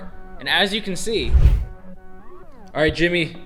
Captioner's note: transition whooshes